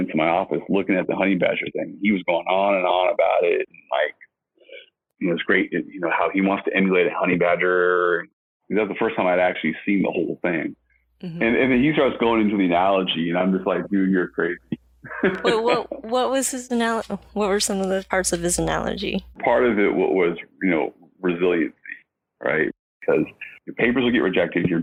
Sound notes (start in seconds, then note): 15.0 laughs